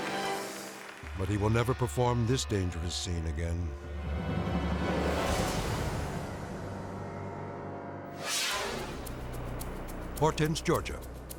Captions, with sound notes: But he will never perform this dangerous scene again. (air whooshes) (pulsing rhythmic music) Hortense, Georgia.